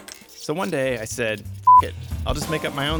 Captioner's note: beeps